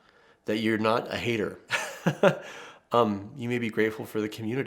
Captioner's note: laughs